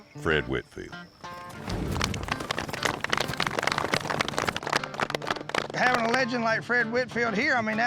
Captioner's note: hoofbeats approaching